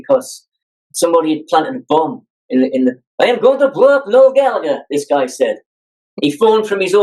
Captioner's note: Russian accent